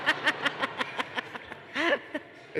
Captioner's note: laughter